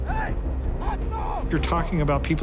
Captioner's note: man shouting